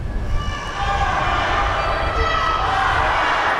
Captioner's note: kids chanting